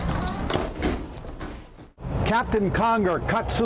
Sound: door slamming

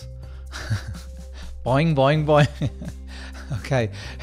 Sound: laughs

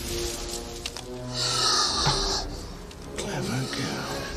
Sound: dinosaur snarls

